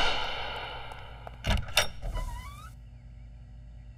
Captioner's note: Door opens